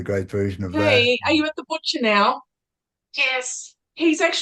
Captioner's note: talking on phone